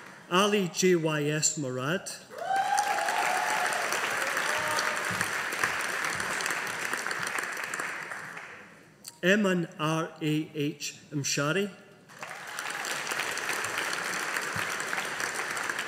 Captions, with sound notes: Ali J Y S Morad. (AUDIENCE APPLAUDING) Eman R A H Mshari. (AUDIENCE APPLAUDING)